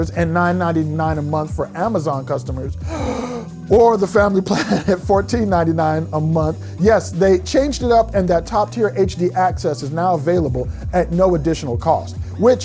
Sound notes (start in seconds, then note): 2.8 inhales deeply